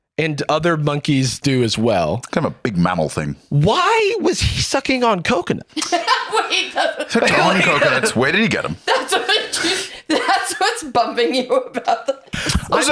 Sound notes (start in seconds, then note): 6.0 laughs; 9.2 laughing